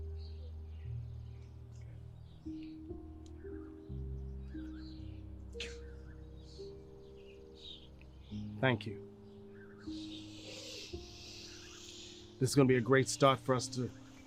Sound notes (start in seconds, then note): 6.1 starts sobbing